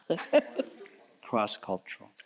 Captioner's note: chuckles